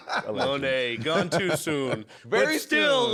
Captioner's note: laughs